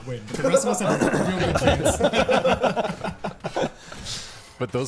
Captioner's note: players laughing